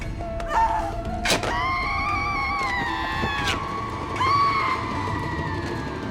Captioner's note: screaming; screams echoing